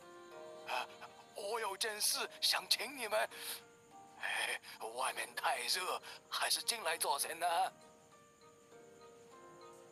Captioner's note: sigh